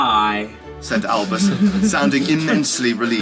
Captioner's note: readers chuckling